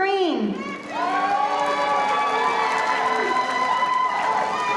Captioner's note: audience applauding